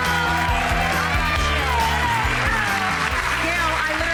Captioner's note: applause